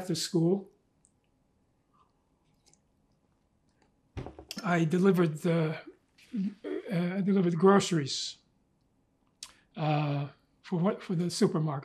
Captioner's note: drinking